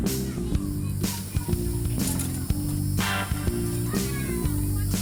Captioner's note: children shouting playfully in the background